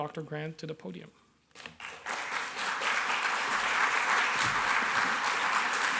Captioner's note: applause